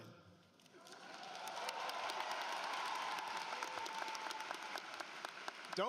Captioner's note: applause